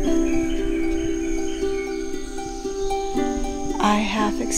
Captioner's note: bird songs